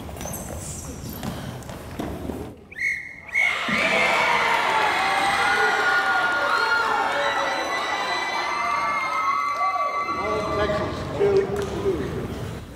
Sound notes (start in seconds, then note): 2.6 whistle 2 times